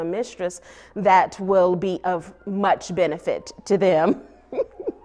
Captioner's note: laughs